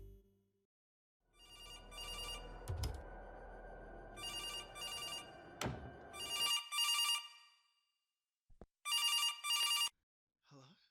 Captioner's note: phone ringing